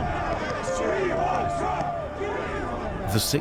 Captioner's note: crowd chanting